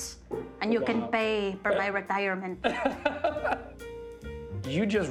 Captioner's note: laughs